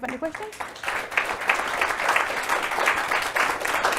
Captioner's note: applause